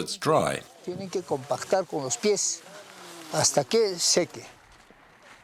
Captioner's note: foreign spoken audio